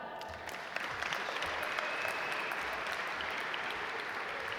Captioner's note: audience applaud